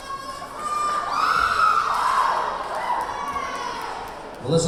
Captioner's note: cheering; clapping; cheering